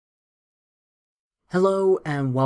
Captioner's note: no audio